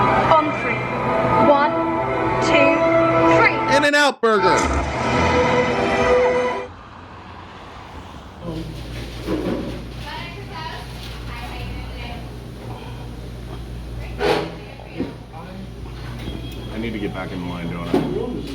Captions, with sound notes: On three. One, two, three. - In-N-Out Burger. [whooshing] [cars passing] [indistinct chattering] I need to get back in the line, don't I?